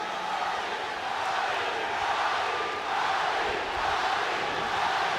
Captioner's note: crowd chanting Roddy